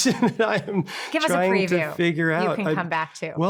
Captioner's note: chuckles